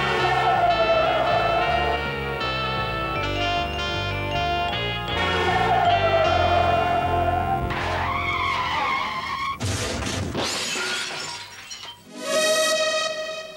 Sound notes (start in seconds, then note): 0.0 wheels screeching; 5.1 wheels screeching; 8.3 vehicles colliding; 8.3 wheels screeching; 12.4 upbeat music